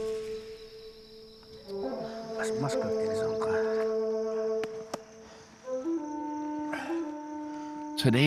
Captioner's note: chatter in Hopi